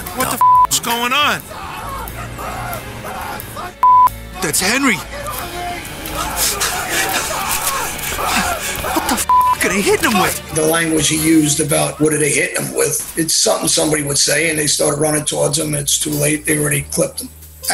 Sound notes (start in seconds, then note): 0.4 beep; 2.7 faint yelling; 3.8 beep; 6.1 heavy breathing; 9.2 beep